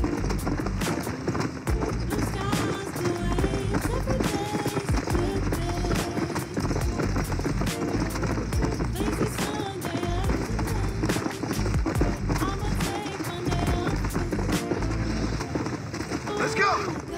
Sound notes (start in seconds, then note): 0.1 music or game and galloping horse; 7.1 cries of bats; 9.1 music or game and galloping horse; 11.1 cries of bats